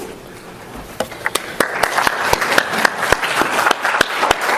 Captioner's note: applauding